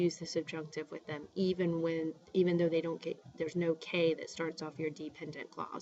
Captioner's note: spanish